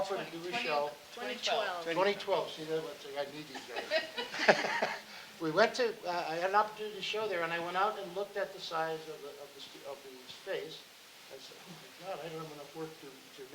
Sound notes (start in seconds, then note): 3.3 laughing